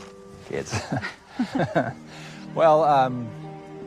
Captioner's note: laughs